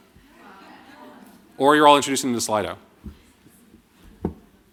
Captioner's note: laughter